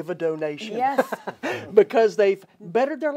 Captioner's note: laughs